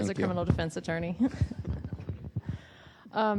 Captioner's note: laughs